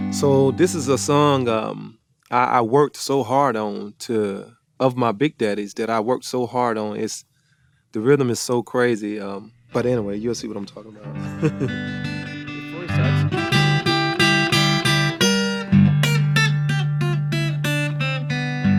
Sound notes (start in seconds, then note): 11.1 chuckles; 13.7 lively blues music